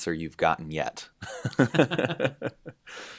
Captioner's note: laughter